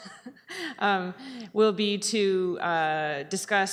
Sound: chuckles

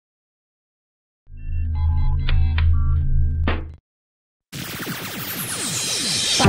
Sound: rocket sounds

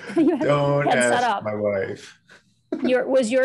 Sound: laughing

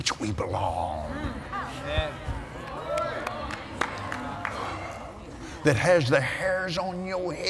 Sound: applause

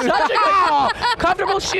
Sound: group laughs

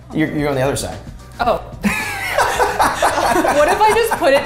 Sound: laughs

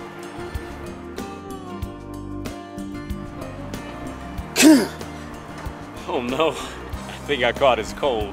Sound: sneeze

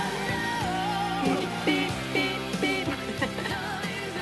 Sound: laughs

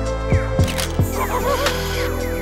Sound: camera shutter closes; strange laughing

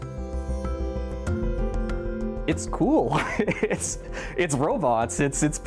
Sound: laughter

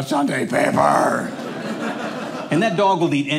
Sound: audience laughing

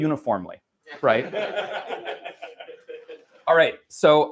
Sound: laughter

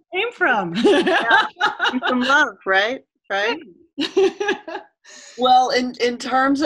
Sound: laughter

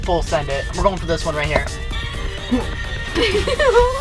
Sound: air whooshing; button clacking; laughing

